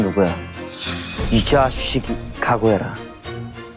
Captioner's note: swoosh